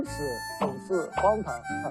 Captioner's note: mocking